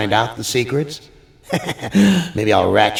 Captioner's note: laughs